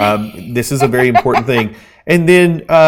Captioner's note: laughing